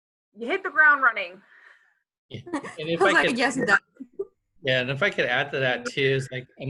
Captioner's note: laugh